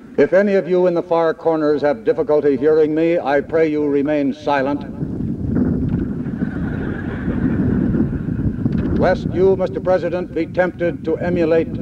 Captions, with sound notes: If any of you in the far corners have difficulty hearing me, I pray you remain silent. [laughter] Lest you, Mr. President, be tempted to emulate